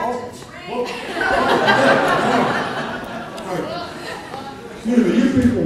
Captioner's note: audience laughter